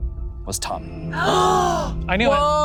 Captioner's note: group gasping